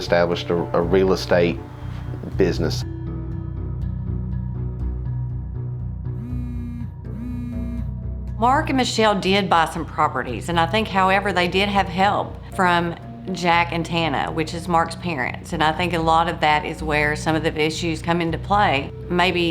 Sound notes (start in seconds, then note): 3.3 phone ringing; 3.3 tense suspenseful music